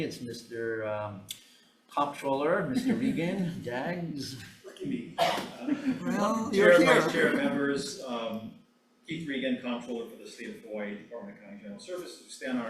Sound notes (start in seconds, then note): 2.7 speaker chuckling; 5.5 attendee chuckling